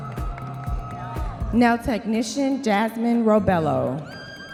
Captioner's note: audience members cheering